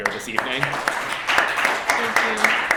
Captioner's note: applause